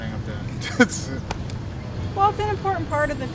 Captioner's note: laughs